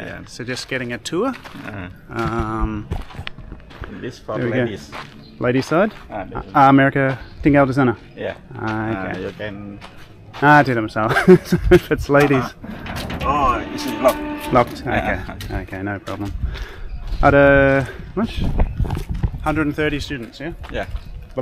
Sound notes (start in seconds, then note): 12.2 laughing